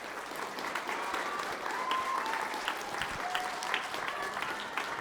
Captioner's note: applause, cheers